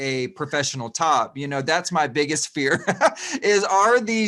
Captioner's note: laughs